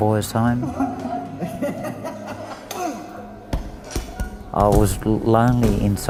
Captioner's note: young Crying, Boys Laughing and punching